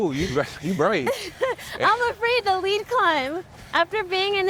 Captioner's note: laughs